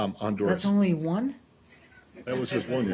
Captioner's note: laughter